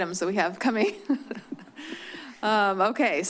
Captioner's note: chuckles